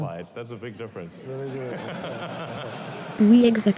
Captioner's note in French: des rires